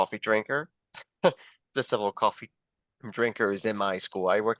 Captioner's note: laughter